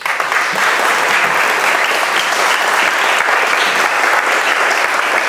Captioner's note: audience applauds